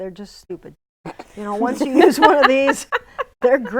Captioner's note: laughing